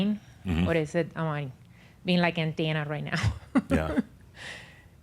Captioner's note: she chuckles